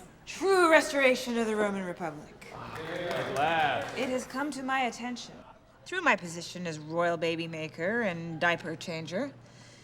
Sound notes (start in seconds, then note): 2.6 applause